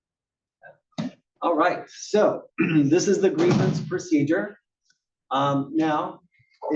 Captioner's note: cough